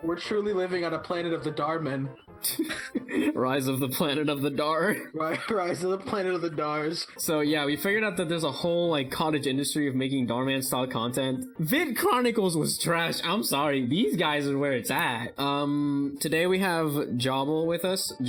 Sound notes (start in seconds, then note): 2.4 chuckles; 5.1 chuckles